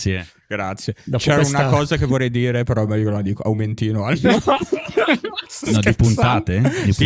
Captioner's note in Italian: laughter